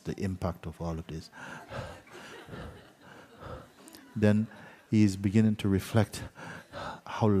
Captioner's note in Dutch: geluid van zwaar ademen